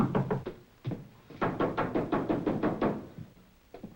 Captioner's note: knocks